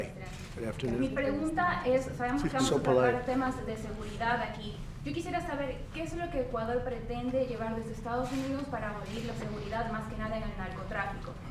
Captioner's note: asks question in Spanish